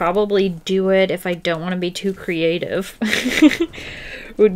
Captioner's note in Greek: Γέλια